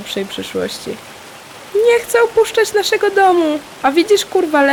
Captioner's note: high pitched, mimicking rats